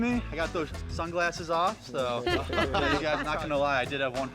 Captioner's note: laughter